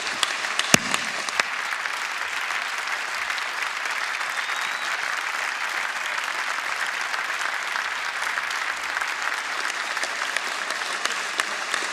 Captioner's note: applause